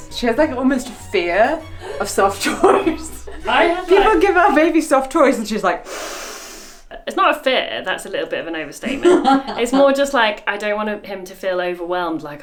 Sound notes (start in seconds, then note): 1.8 laughs; 5.8 inhales sharply; 8.8 laughs